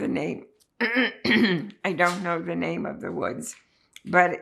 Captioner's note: clears throat